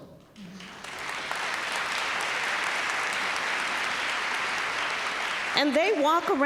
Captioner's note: applause